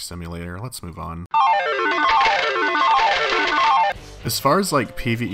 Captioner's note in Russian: звуки слот-машины